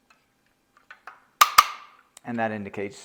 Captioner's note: tool clicks